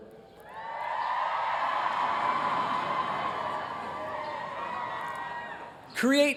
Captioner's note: cheering